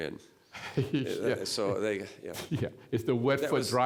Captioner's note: chuckling